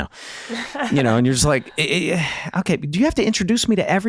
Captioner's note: chuckling